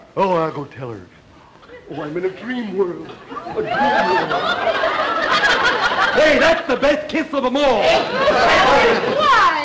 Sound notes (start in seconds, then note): 4.5 audience laughter